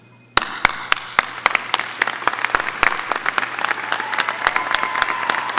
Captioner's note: audience applauding and cheering